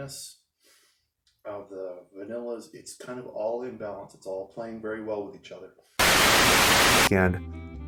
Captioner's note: Static